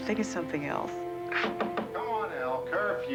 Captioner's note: knocking